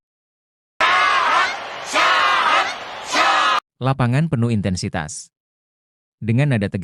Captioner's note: applause